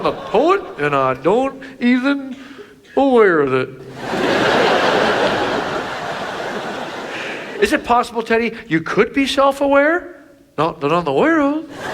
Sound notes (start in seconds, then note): 3.8 audience laughs